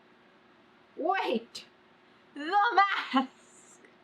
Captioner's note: laughs